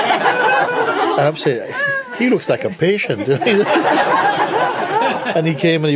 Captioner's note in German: Lachen